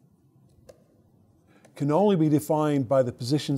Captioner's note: stylus tapping against screen